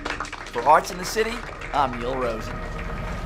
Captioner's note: applause